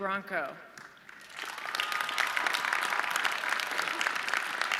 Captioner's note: audience clapping